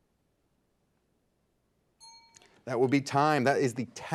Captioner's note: signal dings